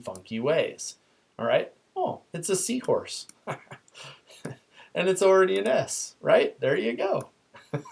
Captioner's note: laughs